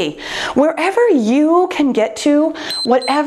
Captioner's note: timer beeps